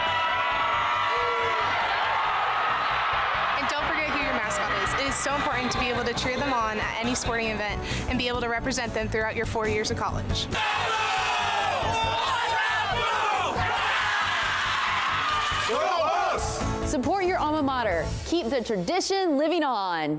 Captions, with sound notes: (Cheering) And don't forget - it is so important to be able to cheer them on at any sporting event and be able to represent them throughout your 4 years of college. (Cheering) Support your alma mater. Keep the tradition living on.